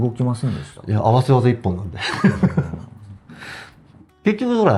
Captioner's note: laughs